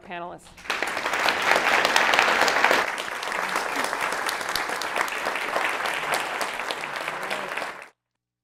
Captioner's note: applause